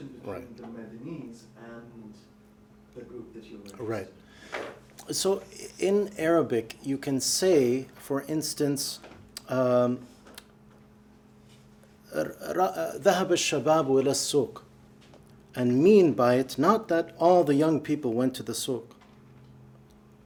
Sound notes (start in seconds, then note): 12.0 speaking arabic